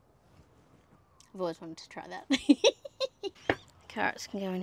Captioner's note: giggles with glee